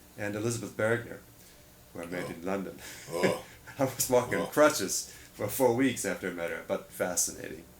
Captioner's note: laughs